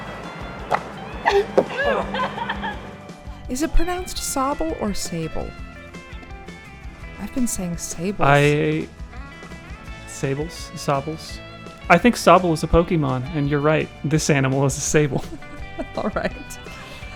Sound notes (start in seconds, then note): 0.7 disk thudding; 1.2 laughing; 15.1 laughing